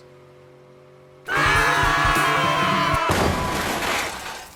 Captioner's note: all scream; crash